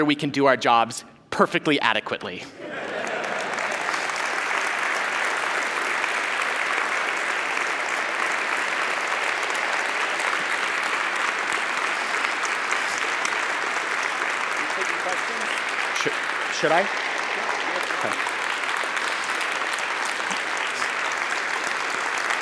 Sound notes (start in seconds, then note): 6.0 applause; 6.0 cheers and applause